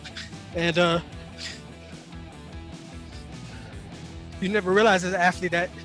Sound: man sniffles

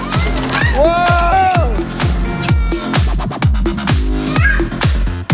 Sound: excited shouting

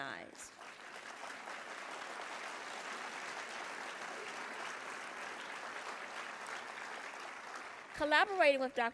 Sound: applause

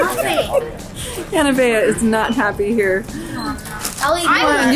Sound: laughs

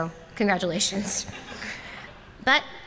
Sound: laughter

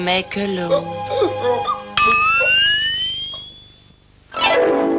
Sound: hiccuping continues

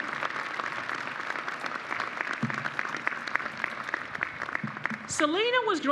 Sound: applause

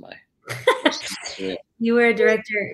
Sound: laughs

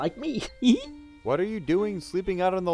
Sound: laughs

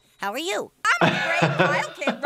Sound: laughs

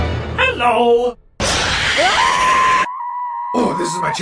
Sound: screams

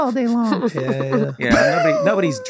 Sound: Meg laughing

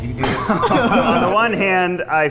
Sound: men laughing

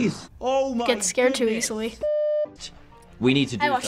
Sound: beep

